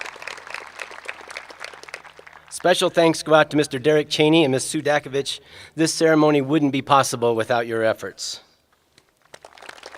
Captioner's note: applause